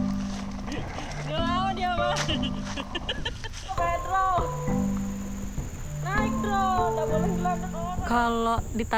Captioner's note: bright lively music; speaking in foreign language